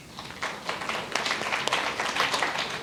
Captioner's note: applause